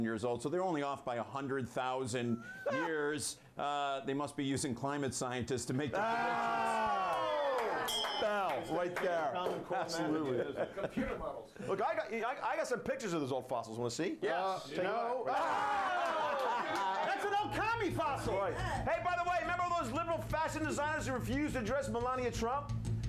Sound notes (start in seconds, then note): 7.8 bell Rings